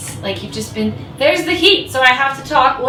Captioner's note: gentle rumbling